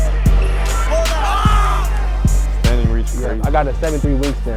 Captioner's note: crowd cheering